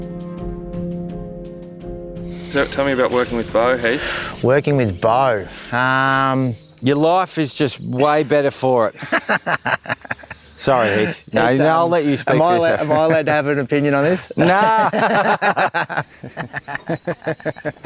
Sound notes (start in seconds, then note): 9.1 laughing; 16.2 both chuckle